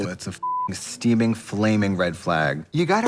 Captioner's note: beep